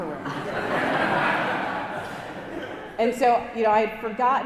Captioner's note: congregation laughing